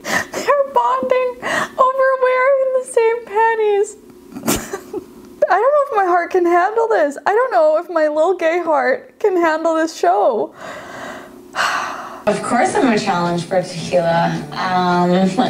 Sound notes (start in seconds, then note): 0.1 laughs